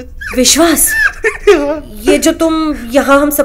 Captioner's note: Vishwas giggling